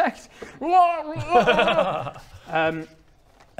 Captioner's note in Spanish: risas burlonas